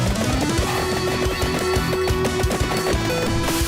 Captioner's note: popping and chiming sound effects